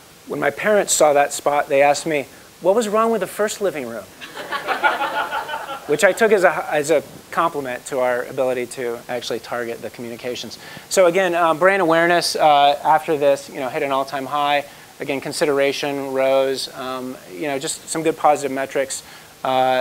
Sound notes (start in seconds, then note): 4.2 laugh